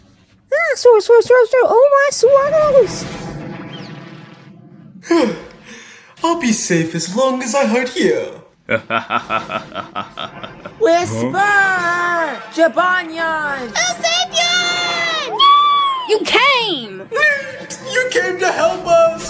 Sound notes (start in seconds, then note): 6.1 whisper sighs; 8.6 Zazel laughs